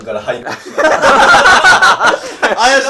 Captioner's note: laughing